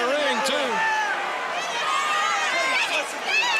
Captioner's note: crowd chatter